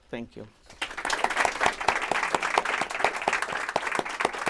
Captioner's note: applause